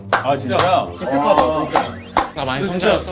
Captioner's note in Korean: 칭찬의 박수